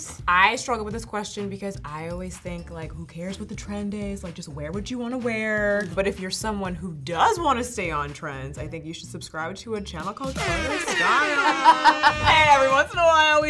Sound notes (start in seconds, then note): 10.5 foghorn blaring; 12.5 laughter